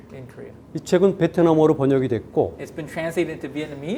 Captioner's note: speaking in Korean